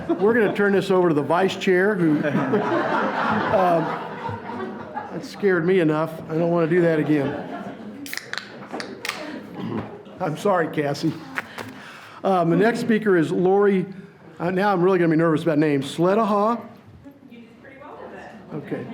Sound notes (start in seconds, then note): 1.9 audience laughs